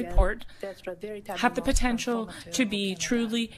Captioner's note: speaking French